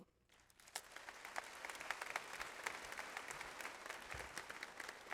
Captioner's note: audience applauds